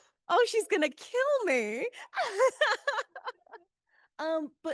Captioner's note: laughs